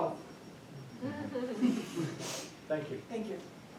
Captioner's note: attendee chuckling